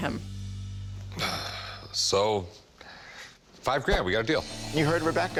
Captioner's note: sighs